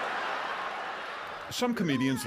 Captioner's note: crowd laughs